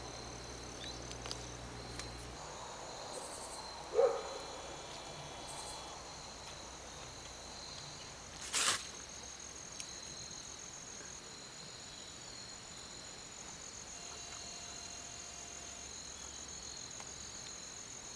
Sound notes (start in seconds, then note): 3.8 dog bark in distance